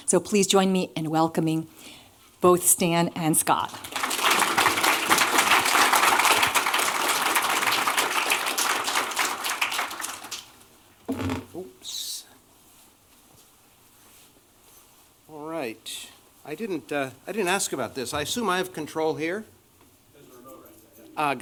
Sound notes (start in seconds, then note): 3.6 applause